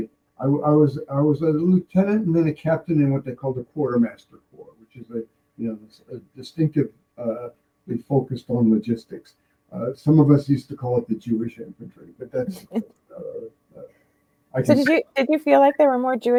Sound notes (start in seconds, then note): 12.3 laughing